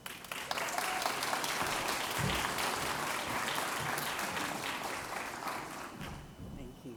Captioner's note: applause